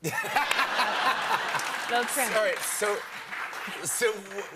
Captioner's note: laughter